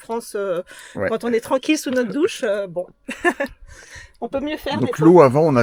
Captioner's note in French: rires